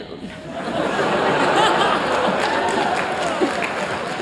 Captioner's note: laughter, clapping